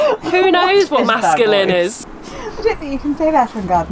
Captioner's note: laughs